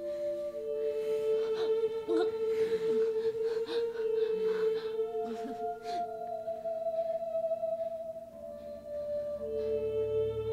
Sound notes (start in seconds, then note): 1.4 gasping for air; 2.0 whimpering Gasps